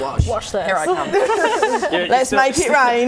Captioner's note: laughing